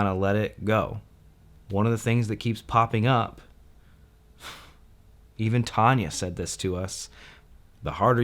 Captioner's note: huffs